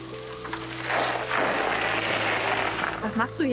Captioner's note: braking bike